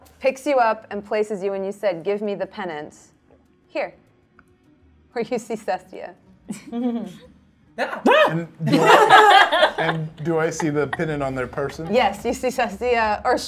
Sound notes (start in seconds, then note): 8.0 exclaim; 8.8 all chuckle